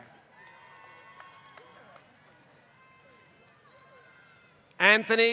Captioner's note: applause